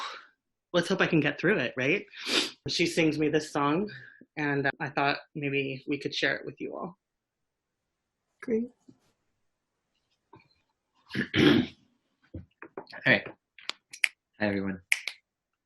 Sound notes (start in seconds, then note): 14.8 snapping fingers